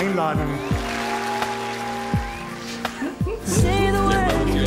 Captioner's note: applause